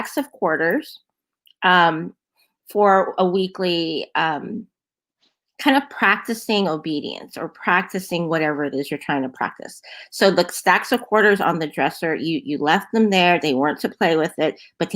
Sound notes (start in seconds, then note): none